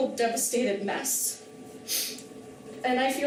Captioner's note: sniffles